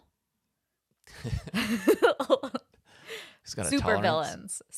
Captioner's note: laugh